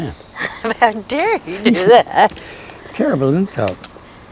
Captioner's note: laughs